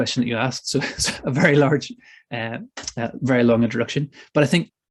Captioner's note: chuckles